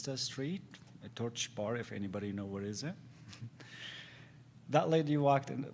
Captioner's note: giggles